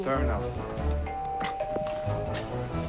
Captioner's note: doorbell rings